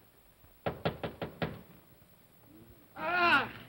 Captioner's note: knocking on door